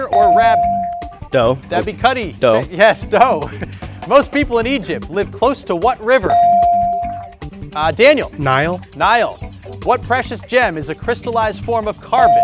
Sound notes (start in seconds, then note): 0.0 bell dings; 3.3 laughs; 6.3 bell dings; 12.2 bell dings